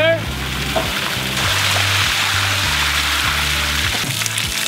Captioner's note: water spilling